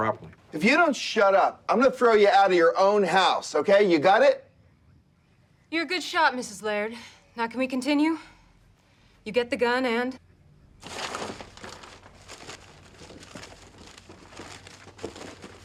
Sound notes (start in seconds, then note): 10.8 rustling